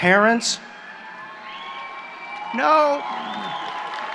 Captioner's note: applause